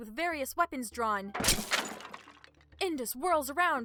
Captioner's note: smash!!